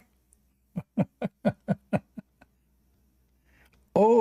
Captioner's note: Ketawa